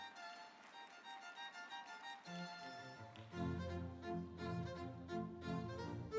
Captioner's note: audience applauding; instrumental music